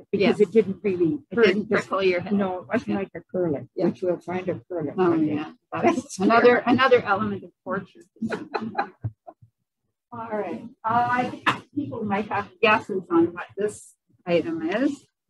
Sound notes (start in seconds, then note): 8.2 laughs